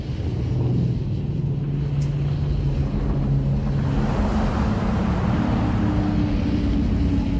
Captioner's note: rumbling